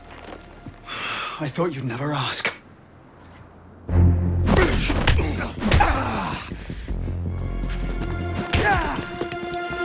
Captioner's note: sighs